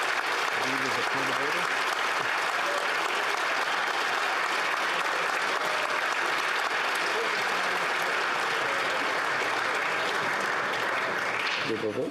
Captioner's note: applause